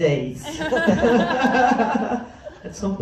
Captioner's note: laughs